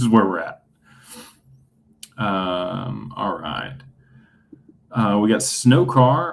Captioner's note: snorts